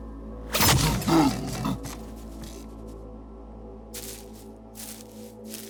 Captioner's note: gun firing; frightened grunting